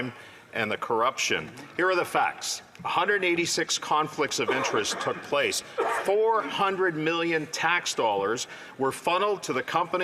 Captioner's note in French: voix de l'interprète